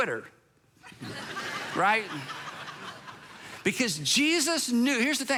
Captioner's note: congregation laughs